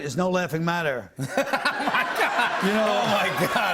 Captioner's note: laughter